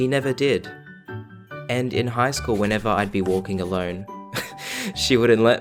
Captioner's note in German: kichern